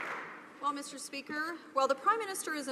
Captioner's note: some Applause